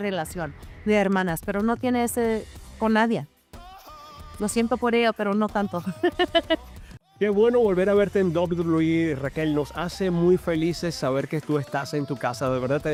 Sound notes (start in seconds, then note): 10.0 laugh